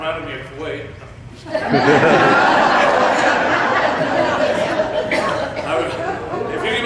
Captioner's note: laughter